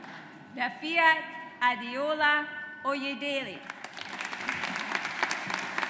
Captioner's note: audience applauds